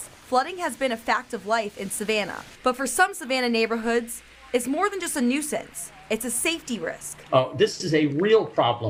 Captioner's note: nats of water rushing / flooding